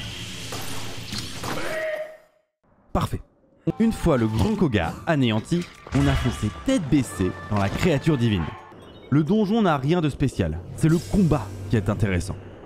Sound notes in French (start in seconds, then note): 1.6 cri de Kohga